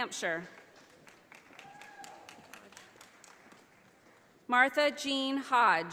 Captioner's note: audience applauding